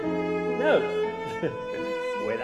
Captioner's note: chuckles